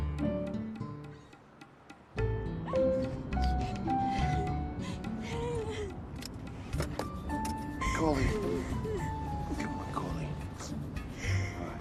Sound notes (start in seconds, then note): 2.9 crying